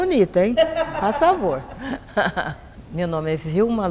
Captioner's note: laughter